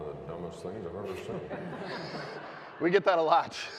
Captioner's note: audience laughing